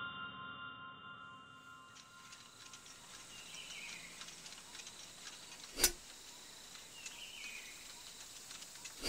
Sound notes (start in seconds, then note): 1.9 metal clanging; 2.0 birds chirping